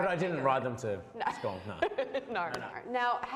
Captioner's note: laughs